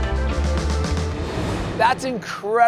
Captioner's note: uplifting music; air whooshing